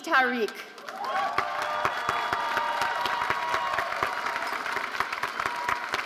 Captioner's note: audience cheering and applauding